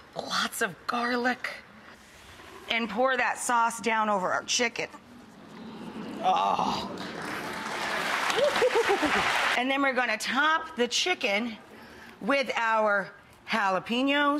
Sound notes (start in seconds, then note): 6.8 audience clapping